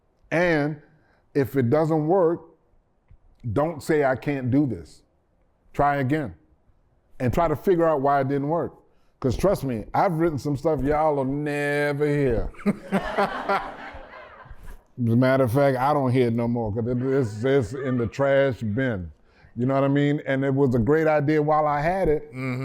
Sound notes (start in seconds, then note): 12.3 laughter